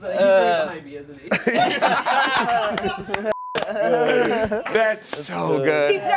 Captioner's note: laughter